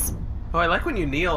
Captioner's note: the crew’s voices become tinny, projected through speakers